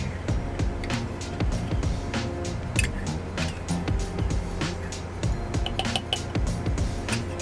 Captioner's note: gentle upbeat music; spoon tapping